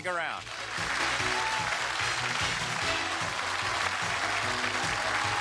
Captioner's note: cheers and applause; upbeat music